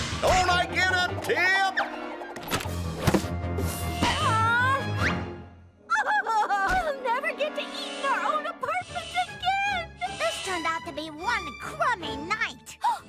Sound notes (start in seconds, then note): 8.0 cries; 12.8 gasps